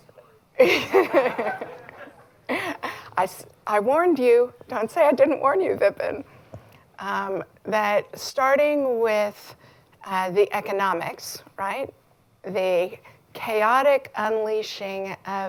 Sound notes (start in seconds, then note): 0.6 laughter